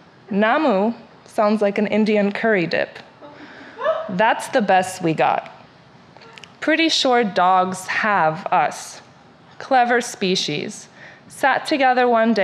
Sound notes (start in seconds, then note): 3.5 audience member laughs